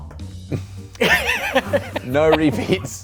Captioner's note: laughing